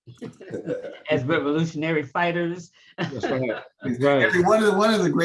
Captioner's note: laughs